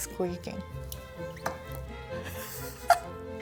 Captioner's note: squeaking sounds; laughter